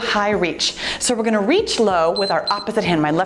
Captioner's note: timer beeps